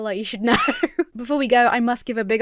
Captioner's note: laughs nervously